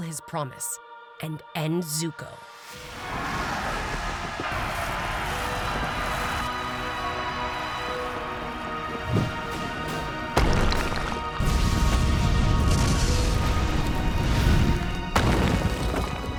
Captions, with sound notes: his promise and end Zuko. [screaming] [fighting, rumbling]